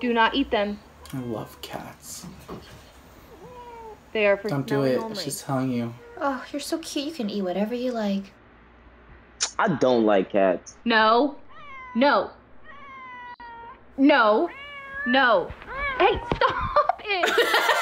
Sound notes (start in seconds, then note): 0.0 squeaks; 9.6 smacks lips; 12.6 cat meows